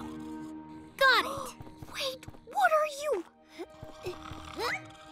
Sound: gasps and whispers

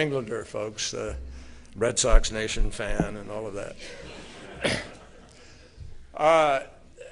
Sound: laughter

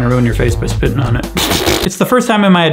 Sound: blows raspberries

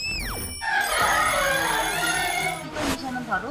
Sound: alarm hits their ears

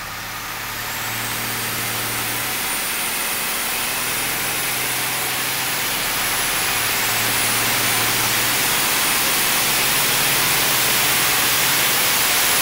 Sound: engine revs accelerate on dynomometer

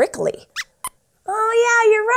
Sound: squeaks Squeaks

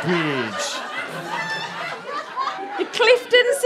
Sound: audience laughter

